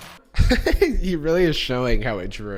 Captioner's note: chuckling